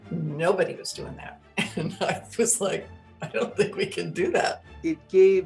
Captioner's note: laughing